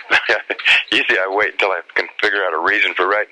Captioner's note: laughs